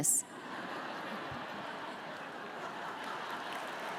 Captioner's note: audience laughs